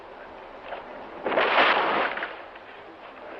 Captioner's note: water splashing